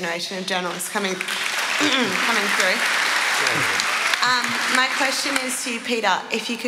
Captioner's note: applause